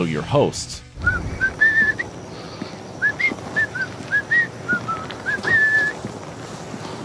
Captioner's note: whistling